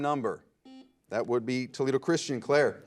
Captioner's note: buzzer